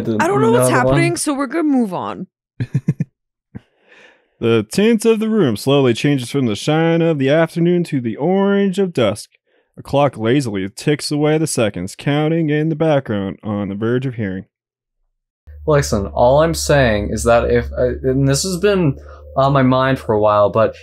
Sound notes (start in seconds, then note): 2.6 chuckles